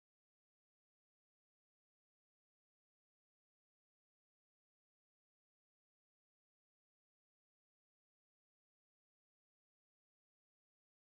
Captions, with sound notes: [In-fiel d chatter] Four! Four! Stay up, stay up.